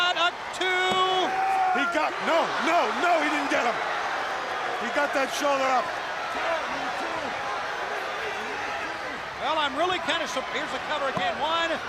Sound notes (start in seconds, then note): 4.3 crowd cheering; 6.6 crowd chatter